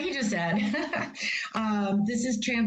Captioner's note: laughter